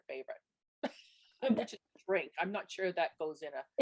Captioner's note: laughs